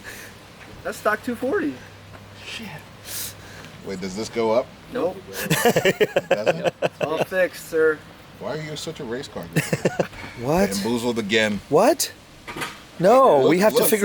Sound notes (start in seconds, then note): 5.4 laughter